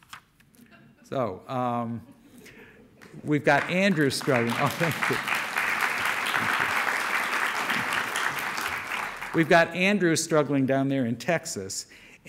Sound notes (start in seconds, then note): 3.4 audience applause; 7.4 applause continues